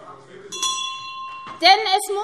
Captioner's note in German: Glockenzeichen